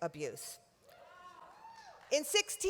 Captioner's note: applause